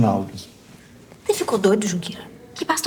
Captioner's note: whispering